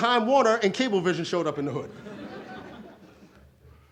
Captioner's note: audience laughs